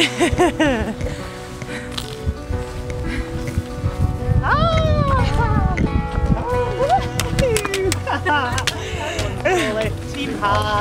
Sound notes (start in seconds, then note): 0.0 laughs; 5.0 cheering